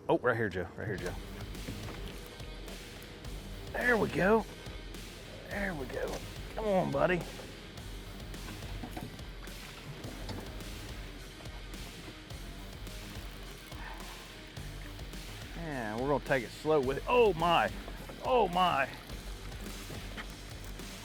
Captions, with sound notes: Oh, right here Joe, right here Joe. (optimistic music) There we go, there we go. Come on buddy. (optimistic music) (fishing rod reeling) We're going to take it slow with it. Oh my. Oh my.